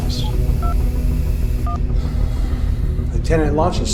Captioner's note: device beeping